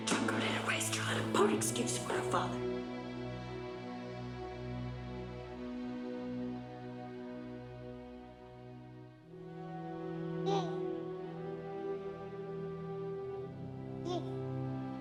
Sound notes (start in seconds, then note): 4.3 soft music; 10.4 baby gurgling